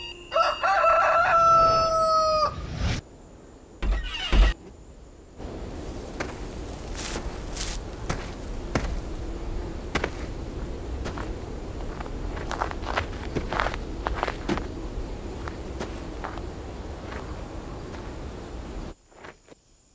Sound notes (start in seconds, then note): 0.2 cockerel crows; 5.4 footsteps